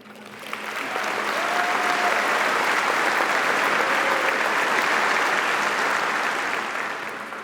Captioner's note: audience applauding